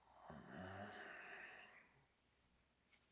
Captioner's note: Jacob groans